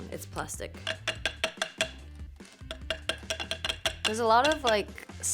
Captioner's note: bowl clicking